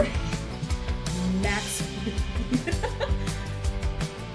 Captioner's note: laugh